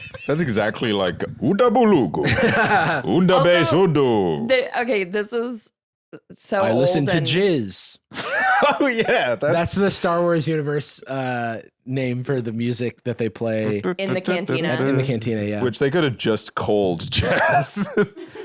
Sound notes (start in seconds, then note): 0.0 laughs; 2.2 laughs; 17.2 laughs